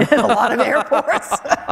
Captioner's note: laughter